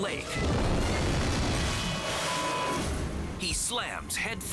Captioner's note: tube crashing